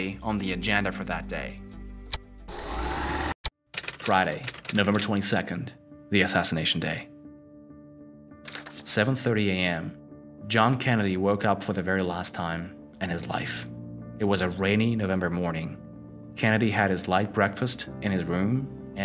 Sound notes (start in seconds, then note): 1.8 keyboard clacking; 1.8 tape rewinding